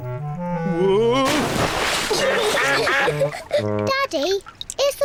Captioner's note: giggling